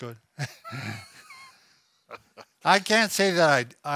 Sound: laughing

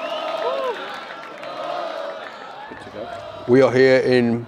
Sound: crowd chants in unison

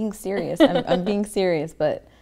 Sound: laughs

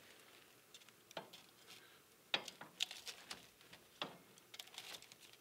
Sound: metal rattling

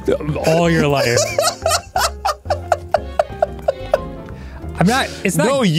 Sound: laughing

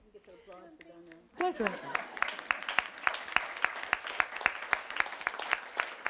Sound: audience applauding

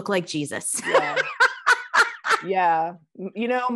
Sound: laughing

